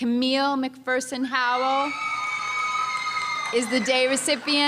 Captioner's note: audience member screams happily